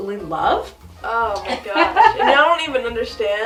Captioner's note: laughs